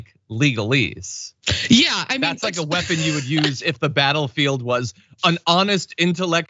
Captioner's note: laugh